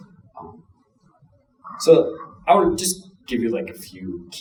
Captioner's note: none